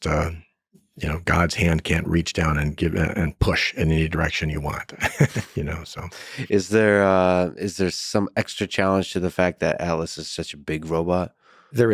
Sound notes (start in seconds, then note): 4.8 laughs